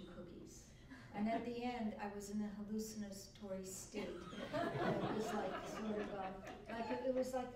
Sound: laughter

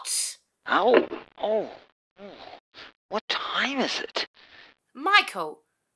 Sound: on phone

